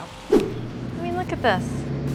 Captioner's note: image whooshes